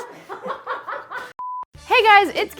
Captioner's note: laughing